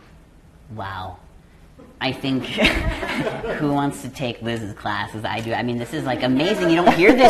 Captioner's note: laughter